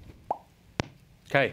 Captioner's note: pops lips